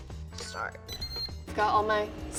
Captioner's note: airfryer beeping